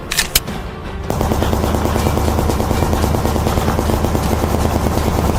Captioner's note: gun cocks; gunshots firing